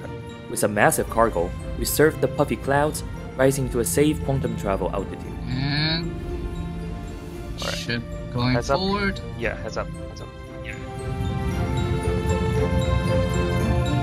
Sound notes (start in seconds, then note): 5.2 on the radio